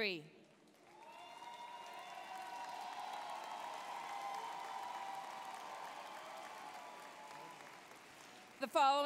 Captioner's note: applause, cheering